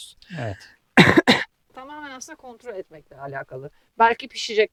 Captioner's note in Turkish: boğazını temizler